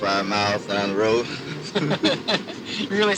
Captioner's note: laughs